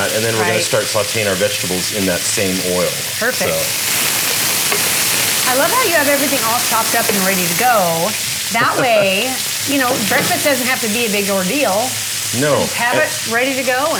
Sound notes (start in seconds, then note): 4.3 sizzling